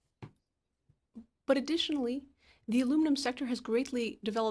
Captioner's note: speaking in French